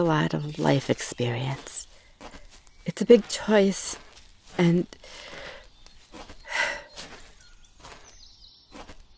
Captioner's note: sighs